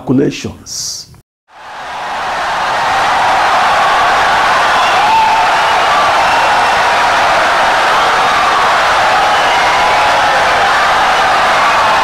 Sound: wild applause and cheering for 17 seconds

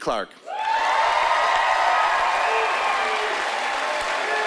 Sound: cheering and applause

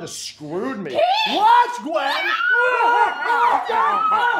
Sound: Gwen and Keith scream

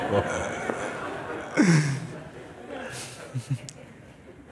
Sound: laughter

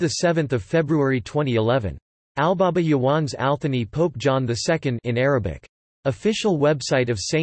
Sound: in Arabic

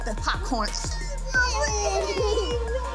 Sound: baby giggling

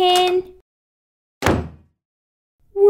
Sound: slam!

